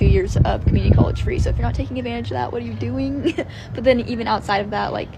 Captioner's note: laughs